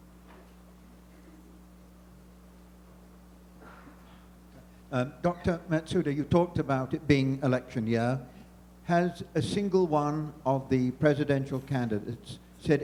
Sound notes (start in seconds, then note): 5.1 voiceover